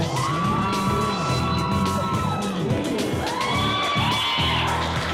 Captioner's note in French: foule acclamant fort